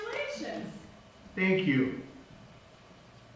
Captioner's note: voice on phone